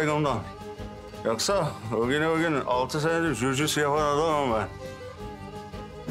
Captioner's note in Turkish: Güçlükle konuşuyor